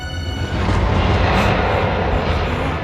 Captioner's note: roaring